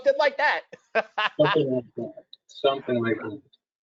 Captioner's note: laughs